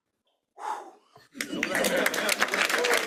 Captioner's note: exhales; applause